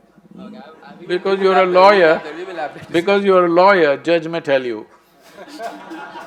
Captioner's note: laughter